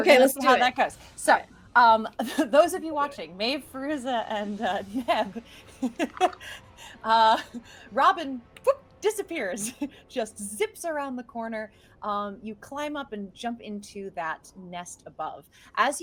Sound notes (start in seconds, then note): 5.8 laughing; 7.1 imitates zipping sound